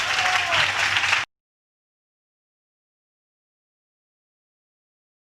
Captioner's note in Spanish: Applause